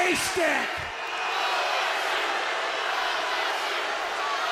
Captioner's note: crowd boos